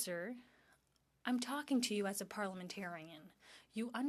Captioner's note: speaking French